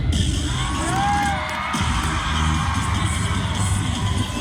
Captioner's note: audience cheering